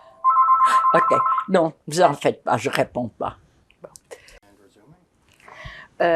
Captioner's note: phone ringing